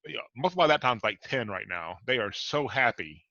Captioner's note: voice muffled